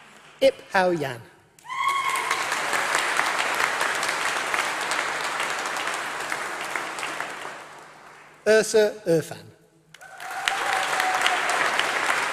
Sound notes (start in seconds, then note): 2.1 applause